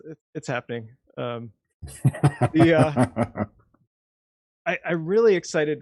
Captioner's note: chuckling